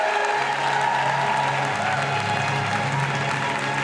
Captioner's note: cheering